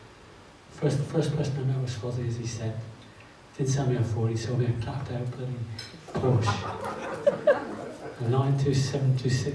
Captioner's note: audience laughs